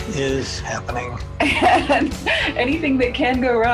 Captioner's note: laughing